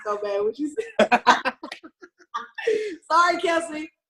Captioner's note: both laugh